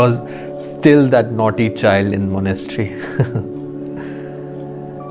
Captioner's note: laugh